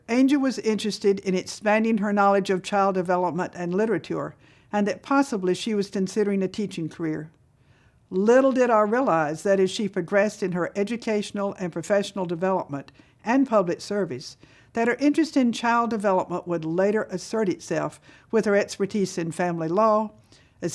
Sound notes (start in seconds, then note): none